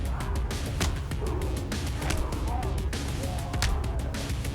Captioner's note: blows thudding; mellow upbeat music